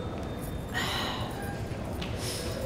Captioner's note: Gauravi exhales